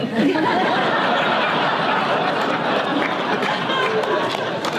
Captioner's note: audience laughter